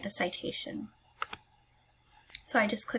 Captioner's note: click